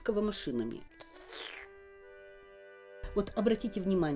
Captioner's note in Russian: прихлебывает чай